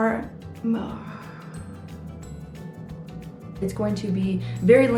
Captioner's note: lively music; groaning